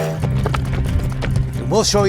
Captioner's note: train whistling; hooves thumping